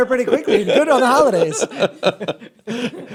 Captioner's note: laughter